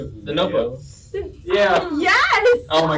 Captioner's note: sounds of exasperation